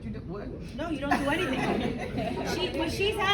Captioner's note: audience laughing